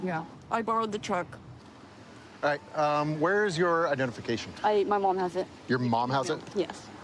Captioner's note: none